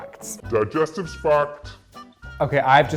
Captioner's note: computer Voice